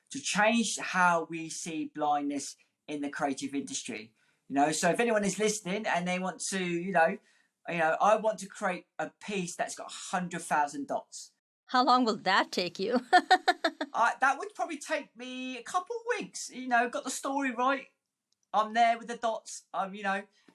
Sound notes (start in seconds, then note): 13.0 laughing